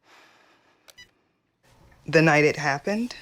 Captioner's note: phone beeps